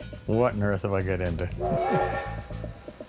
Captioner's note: laughs; laughs